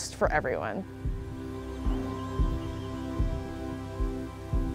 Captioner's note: birdsong